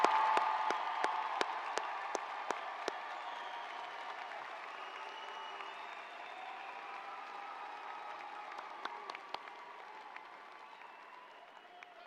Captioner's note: applause